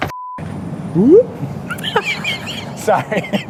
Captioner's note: makes woop noise